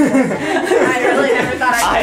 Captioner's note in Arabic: ضحك